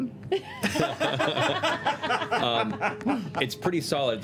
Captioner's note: laughter